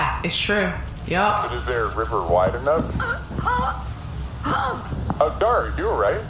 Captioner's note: begins choking